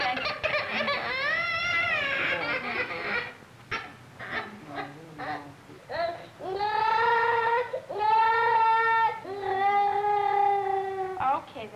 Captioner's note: crying